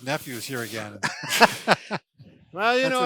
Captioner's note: laughs